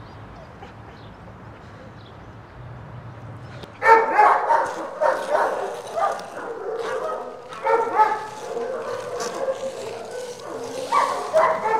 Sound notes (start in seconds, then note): 6.2 dogs barking